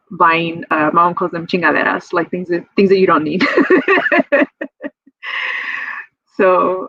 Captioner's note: laughs